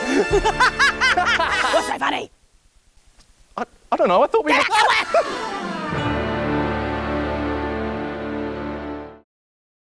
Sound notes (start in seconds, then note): 0.0 chuckles nervously; 0.0 both cackle; 4.5 shrieks